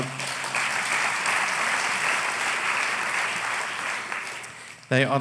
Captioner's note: applause